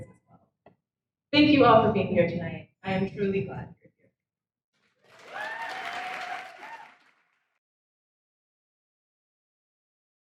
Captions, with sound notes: Thank you all for being here tonight, I am truly glad. (audience cheers) (audience applauds)